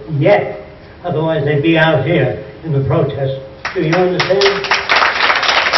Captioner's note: applause